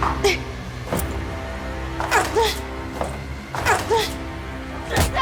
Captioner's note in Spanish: Golpes